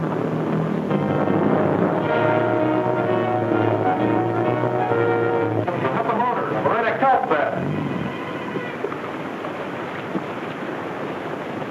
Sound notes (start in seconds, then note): 0.8 dramatic music; 1.4 boat hums